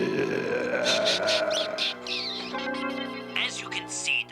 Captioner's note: laughs